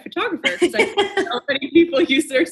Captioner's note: laughing